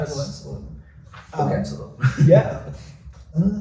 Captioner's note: giggles